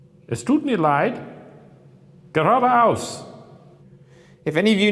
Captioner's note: speaks German